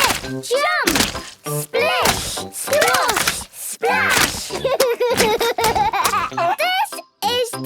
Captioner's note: laughs